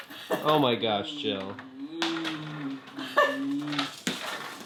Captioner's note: laughing